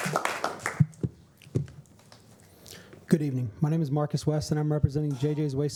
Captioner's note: applause